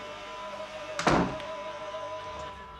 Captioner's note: door shuts